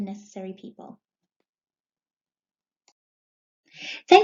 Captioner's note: pause